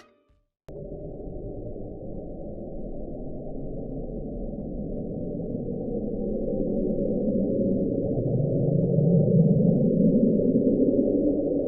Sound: low, droning, airy sound that warbles off at the end

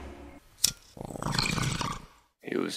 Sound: bong hit and gurgle

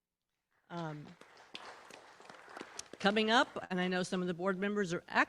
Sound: applause

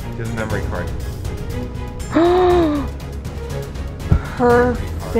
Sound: gasps

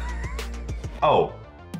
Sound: laughter

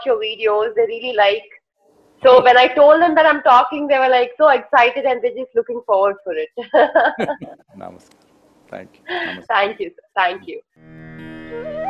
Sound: both laugh

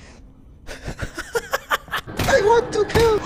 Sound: laughter

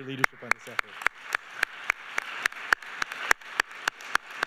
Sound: clapping

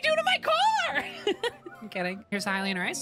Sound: laughter

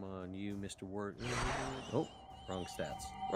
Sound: swishing, whistling sound effect

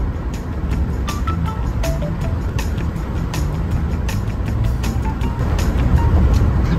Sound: car engine humming; bright upbeat music

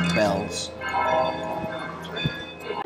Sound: clock bells ringing

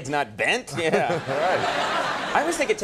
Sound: The Rock and audience laughing

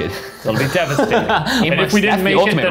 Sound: laughing

